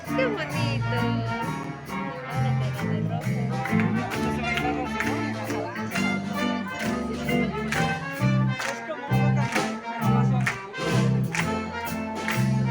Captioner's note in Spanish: música y aplausos